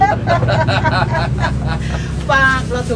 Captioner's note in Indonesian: tertawa